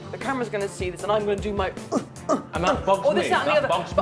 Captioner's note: groans